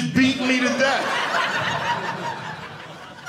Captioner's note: audience laughing